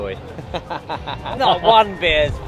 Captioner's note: chuckling